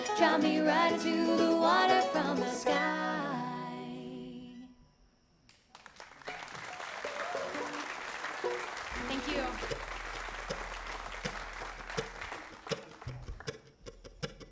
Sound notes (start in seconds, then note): 5.6 audience applauding; 11.7 bluegrass music